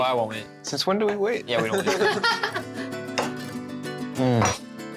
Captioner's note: Pati laughs